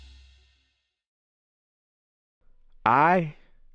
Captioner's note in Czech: ticho